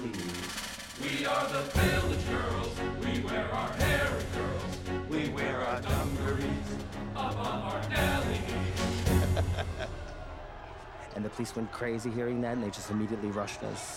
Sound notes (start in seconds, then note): 8.9 laughing